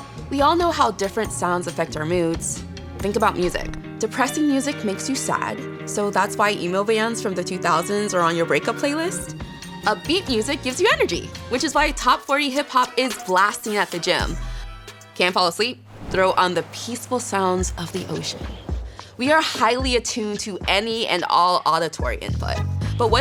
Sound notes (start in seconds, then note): 15.9 waves lapping